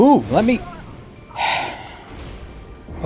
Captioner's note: the sigh of a man aging 100 years in a single second